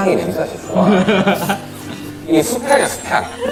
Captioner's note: whiff